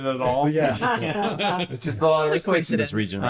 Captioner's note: laughter